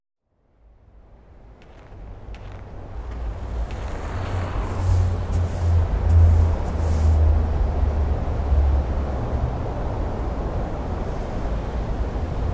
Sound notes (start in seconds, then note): 1.6 snow Crunching Underfoot